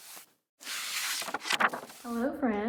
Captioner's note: pages turning